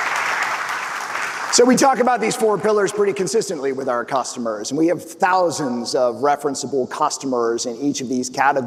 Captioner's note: applause